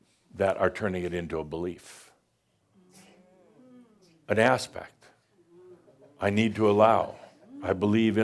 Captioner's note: audience says “Ooh” and “Mm”